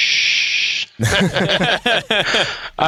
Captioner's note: laughter